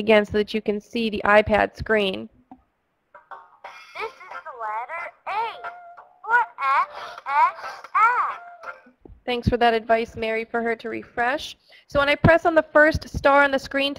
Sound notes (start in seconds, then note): 3.9 voiceover; 9.3 voiceover